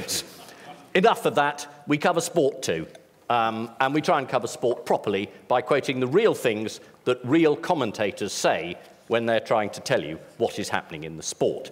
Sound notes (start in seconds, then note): none